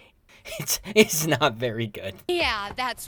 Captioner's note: laughs